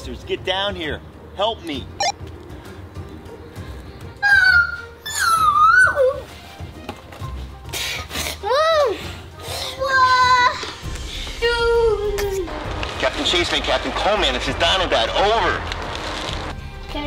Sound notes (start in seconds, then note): 2.8 radio beeps; 4.1 Cole-man screeching